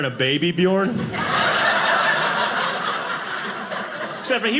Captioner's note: audience laughing